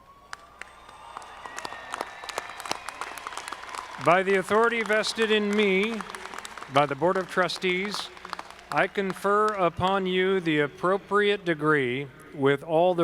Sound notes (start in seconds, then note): 0.7 audience clapping